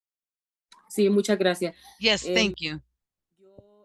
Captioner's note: talking in a foreign language